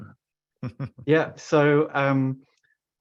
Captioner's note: chuckles